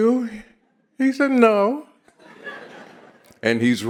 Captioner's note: audience laughs